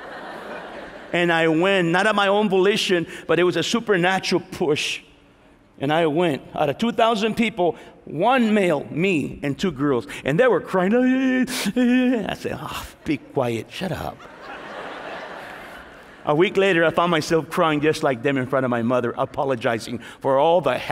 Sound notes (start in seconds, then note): 11.8 sobbing